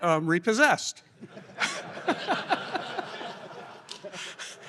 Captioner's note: laughter